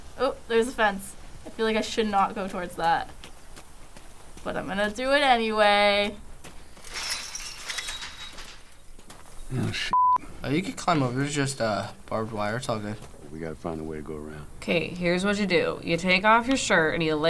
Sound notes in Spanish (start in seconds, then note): 6.7 la cerca suena